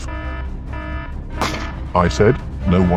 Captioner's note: bang